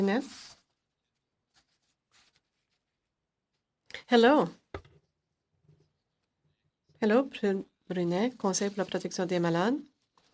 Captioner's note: speaking FRENCH